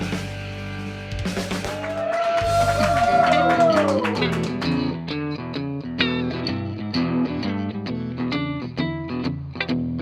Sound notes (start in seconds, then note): 3.9 playing guitar; 4.0 applause